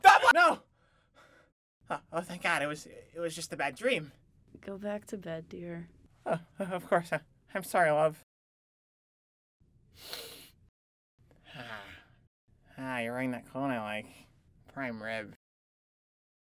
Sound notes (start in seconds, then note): 9.9 emmett sniffs; 11.4 emmett sighs